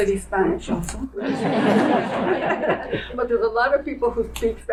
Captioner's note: audience laughing